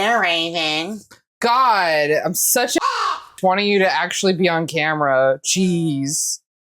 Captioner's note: caw